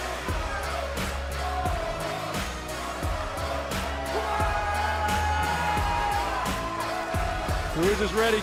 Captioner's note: fans chanting